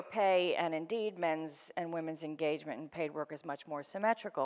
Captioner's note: none